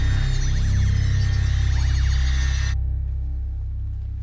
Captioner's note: exhales